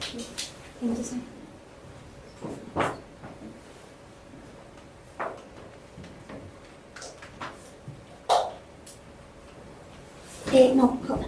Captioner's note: speaking spanish